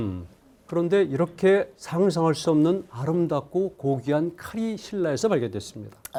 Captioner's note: speaking in Korean